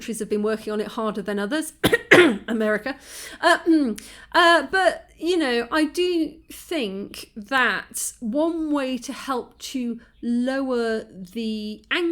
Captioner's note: cough